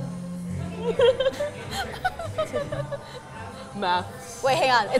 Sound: laughs

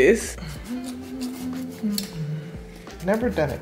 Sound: humming

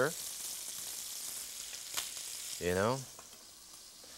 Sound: pan sizzling

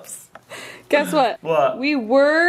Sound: laughs

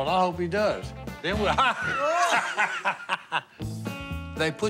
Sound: laughing

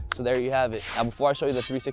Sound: whoosh

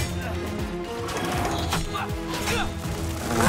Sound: grunting

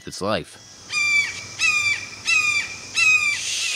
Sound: hawk screeches--loudly!

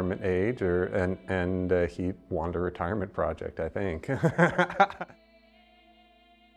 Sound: laughing

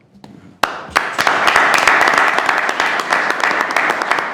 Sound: attendees applauding

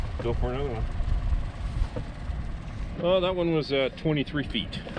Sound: boat engine idling

